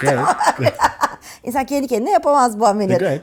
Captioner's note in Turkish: kahkaha